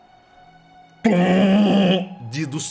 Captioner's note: tuuum